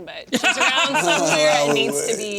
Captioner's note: laughter